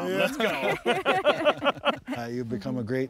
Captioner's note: everyone laughs